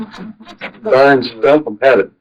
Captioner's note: laughing